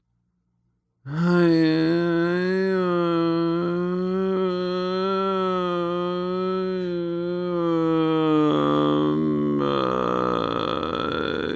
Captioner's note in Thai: เสียงคราง